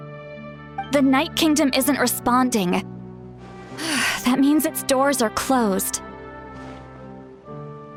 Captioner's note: sigh